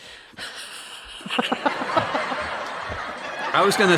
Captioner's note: sparse laughter